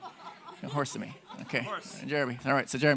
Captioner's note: audience laughing